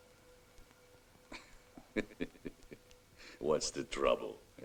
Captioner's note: chuckling